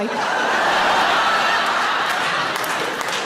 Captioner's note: audience laughs